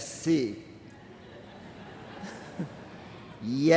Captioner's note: laughter from crowd